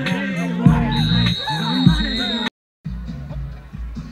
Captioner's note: whistle blowing